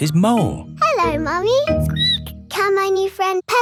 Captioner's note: squeaks